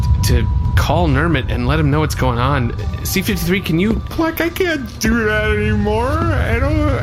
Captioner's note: sobbing